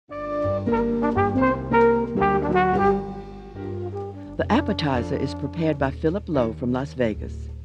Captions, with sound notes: (up-tempo jazz music) - [Voiceover] The appetizer is prepared by Phillip Lo from Las Vegas.